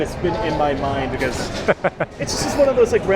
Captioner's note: laughs